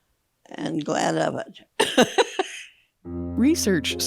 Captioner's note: laughs